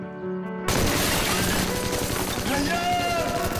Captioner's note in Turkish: Silah sesi